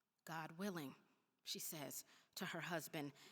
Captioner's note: none